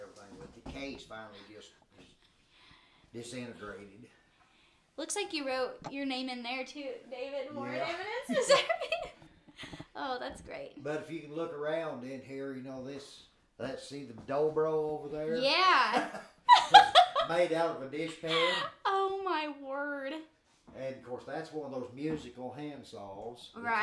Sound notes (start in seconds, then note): 8.9 both chuckling; 15.7 laughing